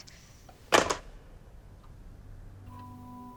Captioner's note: phone clatters; light music